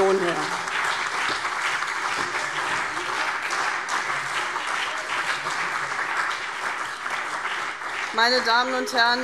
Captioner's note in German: Beifall : Nebelkerze!